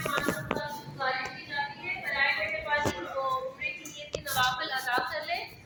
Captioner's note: boarding announcement